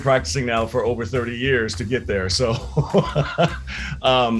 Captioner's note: chuckling